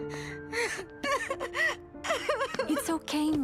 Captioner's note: soft music; Mischa cries